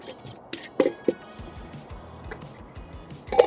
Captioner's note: lids clinking